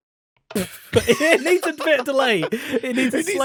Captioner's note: fart; laughter